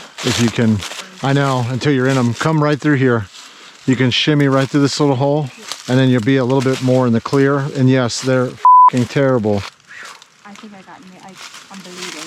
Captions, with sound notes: If you can, I know, until you're in them, come right through here. You can shimmy right through this little hole and then you'll be a little bit more in the clear. And yes, they're (beep) terrible. - I think I got me, I'm bleeding.